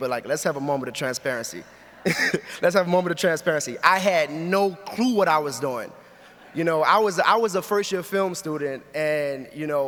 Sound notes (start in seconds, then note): 6.1 audience laughs